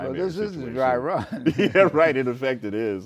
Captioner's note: laughs